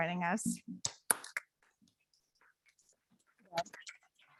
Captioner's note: audience clapping